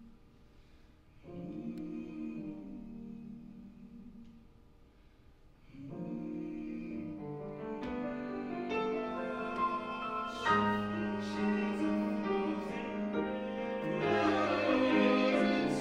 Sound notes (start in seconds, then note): 1.0 humming